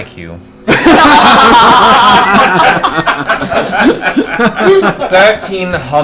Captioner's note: all laugh